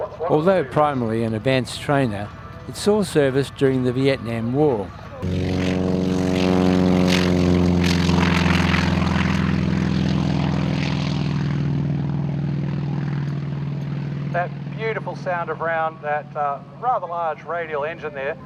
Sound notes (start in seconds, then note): 5.2 aircraft sounds